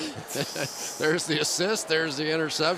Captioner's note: laughter